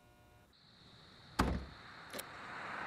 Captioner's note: trunk shuts